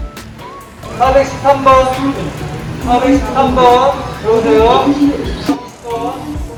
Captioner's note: yell